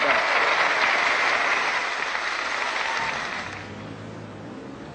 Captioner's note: applause